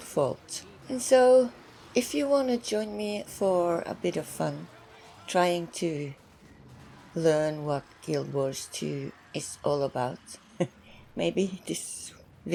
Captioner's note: chuckles